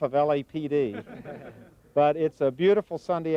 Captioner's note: laughing